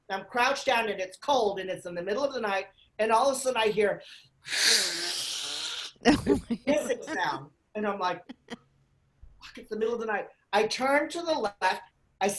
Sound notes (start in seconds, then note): 4.4 hissing; 6.0 laughing